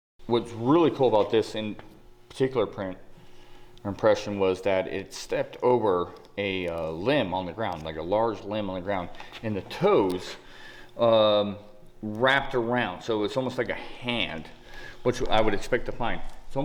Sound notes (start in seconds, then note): none